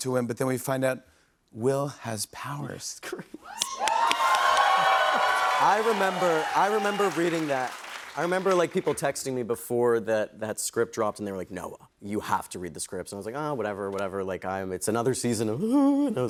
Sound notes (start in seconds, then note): 3.5 cheers and applause